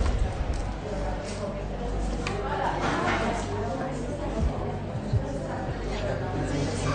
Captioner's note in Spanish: Bullicio